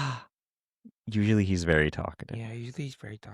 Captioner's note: gasp